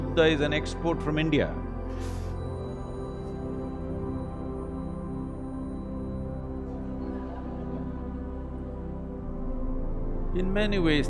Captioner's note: laughter